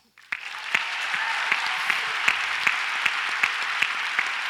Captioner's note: audience applauds